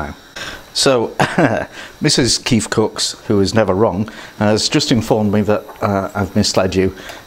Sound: laughs

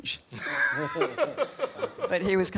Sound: laughs

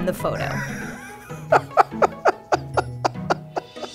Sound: laughs

